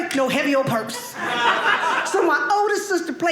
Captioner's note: audience laughing